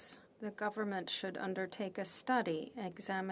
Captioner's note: speaking French